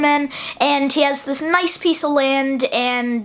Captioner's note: none